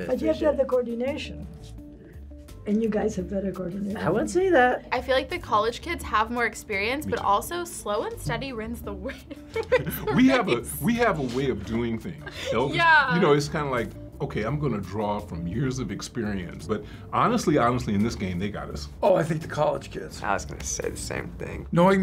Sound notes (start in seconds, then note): 9.4 laughs